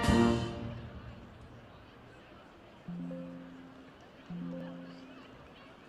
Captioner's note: background conversations